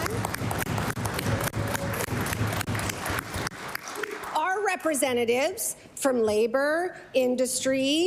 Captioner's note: cheering/Applause